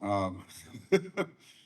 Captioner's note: laughs